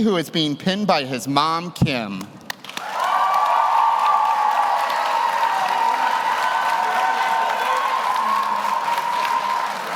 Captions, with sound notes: who is being pinned by his mom, Kim. (audience cheers) (audience applauds)